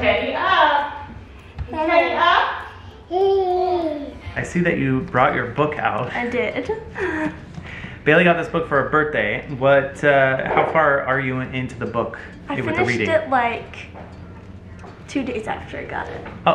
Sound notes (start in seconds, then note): 2.8 baby coos